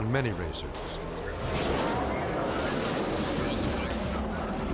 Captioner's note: bobsled whirring